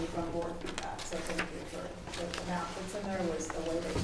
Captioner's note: rustling papers drowns out speaker